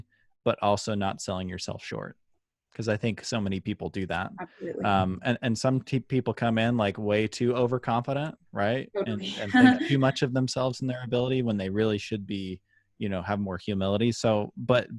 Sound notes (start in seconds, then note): 9.1 laughter